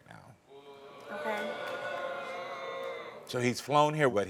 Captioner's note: audience groans